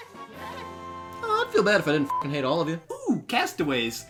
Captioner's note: beeps